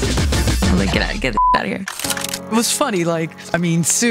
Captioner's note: beep